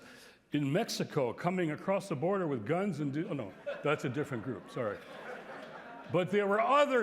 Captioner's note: laughter